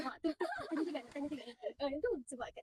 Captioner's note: laughs together